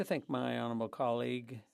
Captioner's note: speaking French